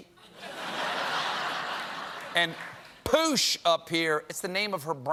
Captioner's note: laughter